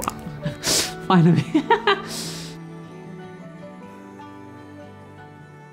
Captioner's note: laughs